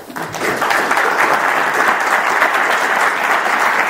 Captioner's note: audience applauding